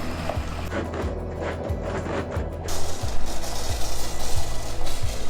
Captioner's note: RV revs and grunts